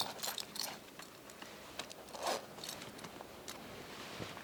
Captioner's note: belt unbuckling